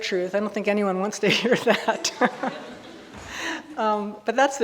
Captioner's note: chuckles